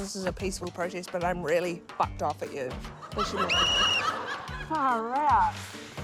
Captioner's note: blows whistle